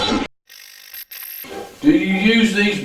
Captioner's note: static fizzing